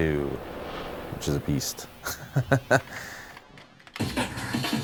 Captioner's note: laughter